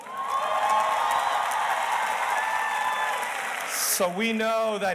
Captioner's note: audience cheers and applauds